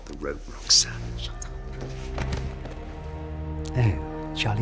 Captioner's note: body thuds